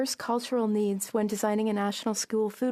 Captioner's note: speaking French